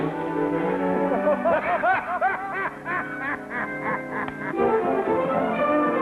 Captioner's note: Jingo and Pierre laughing